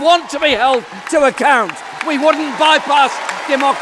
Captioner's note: applause